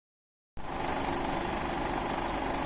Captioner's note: movie reel sounds